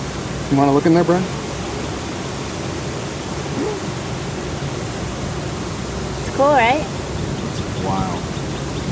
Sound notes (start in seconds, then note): 1.3 bees buzzing